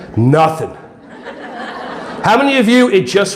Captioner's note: audience laughing